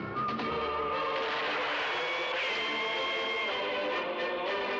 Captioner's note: gunshots continue